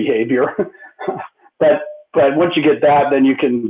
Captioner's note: laughter